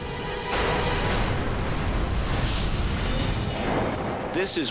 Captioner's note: boom